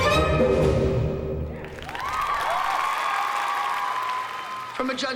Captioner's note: cheering and applause